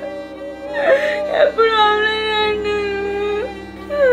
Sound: crying continues

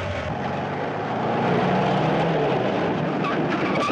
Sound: Jeep Approaching

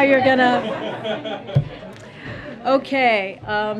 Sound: laughter

